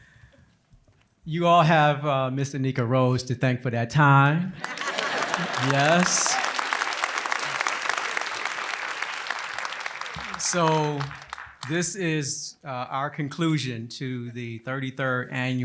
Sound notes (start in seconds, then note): 4.6 applause